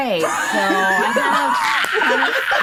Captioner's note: laughing